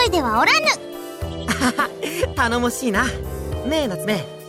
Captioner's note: laugh